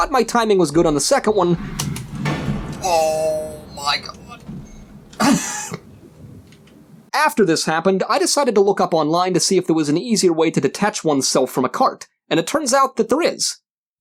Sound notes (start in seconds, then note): 0.8 dramatic music; 6.2 laughs